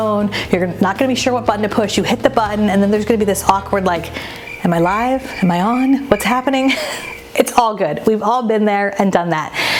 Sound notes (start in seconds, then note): 3.1 insects chirping; 7.1 chuckles